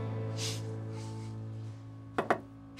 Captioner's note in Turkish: Kapı vuruluyor